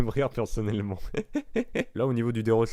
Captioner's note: laughs